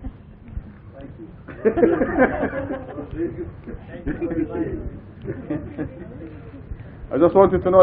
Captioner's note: Gülüyorlar